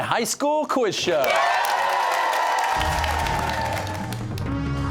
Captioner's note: cheers and applause